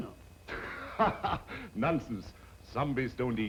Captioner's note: laughing